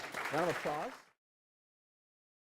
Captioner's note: applause